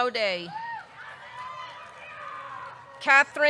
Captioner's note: audience cheering